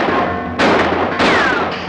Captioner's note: gun firing